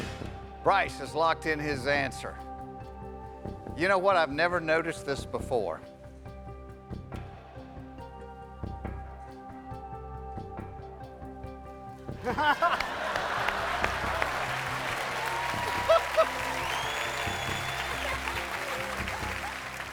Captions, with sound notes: BRYCE HAS LOCKED IN HIS ANSWER. YOU KNOW WHAT? I'VE NEVER NOTICED THIS BEFORE. [ LAUGHTER ]